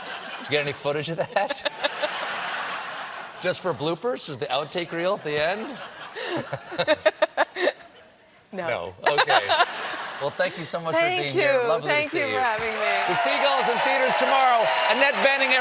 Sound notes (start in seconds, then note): 5.3 laughter